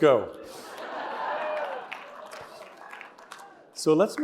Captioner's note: laughter